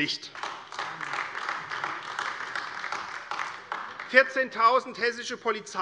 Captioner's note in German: Beifall AfD